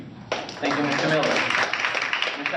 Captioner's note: applause